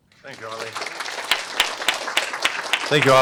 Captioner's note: applause